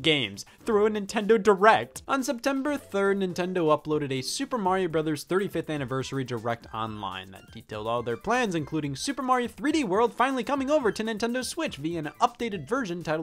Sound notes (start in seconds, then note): none